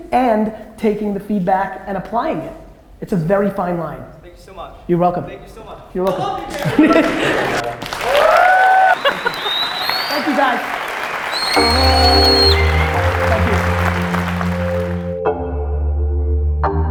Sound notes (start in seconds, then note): 7.7 audience cheers and applause; 11.6 light music